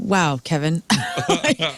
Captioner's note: laughing